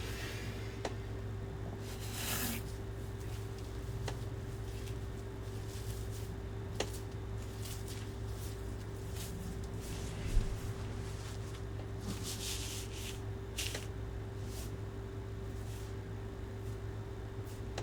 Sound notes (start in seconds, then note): 1.6 wig rustling; 7.5 wig rustling continues; 14.2 wig rustling continues